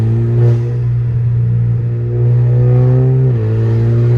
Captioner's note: engine revs